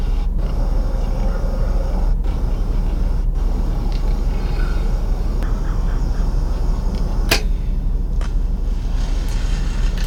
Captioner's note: laughs